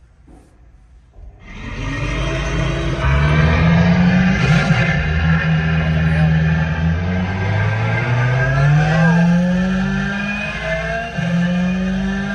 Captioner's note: engine Noise